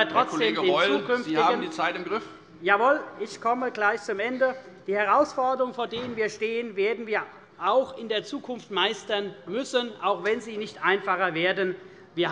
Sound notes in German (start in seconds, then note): none